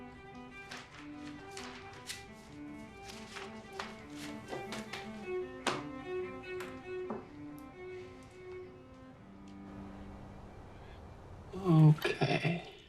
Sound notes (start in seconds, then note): 0.2 papers shuffling; 3.7 mellow music